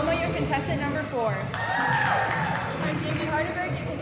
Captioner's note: audience cheering